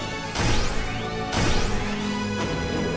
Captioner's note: none